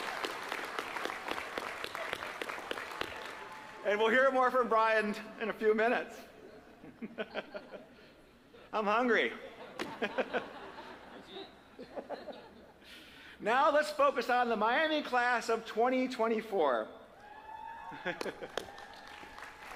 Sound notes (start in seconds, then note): 2.3 applause; 13.8 laughter